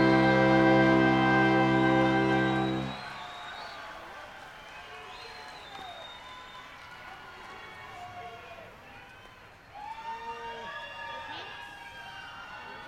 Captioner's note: cheering